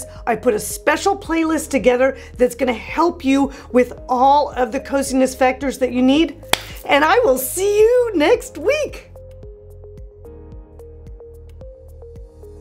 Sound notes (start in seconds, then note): 6.5 hands clap; 9.1 mellow keyboard music